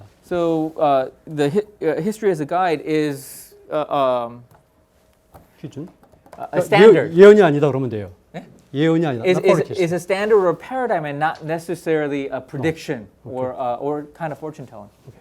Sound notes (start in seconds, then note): 0.0 speaking in Korean; 6.0 speaking in Korean